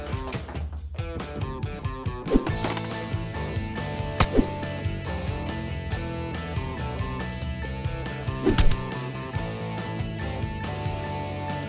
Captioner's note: gun clatters on floor